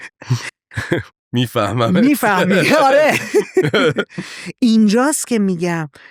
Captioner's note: laughs